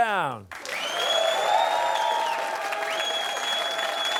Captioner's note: cheers and applause